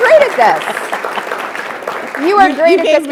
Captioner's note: attendees applauding